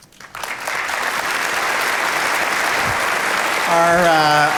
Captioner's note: audience applauding